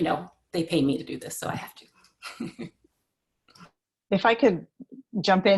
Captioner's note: chuckles